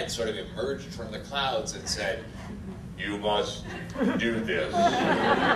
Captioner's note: god-like voice; audience laughter